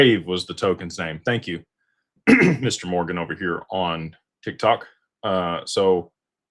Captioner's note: clears throat